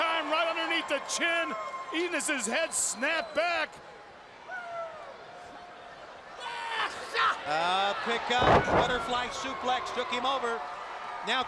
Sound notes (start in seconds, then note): 4.4 crowd cheering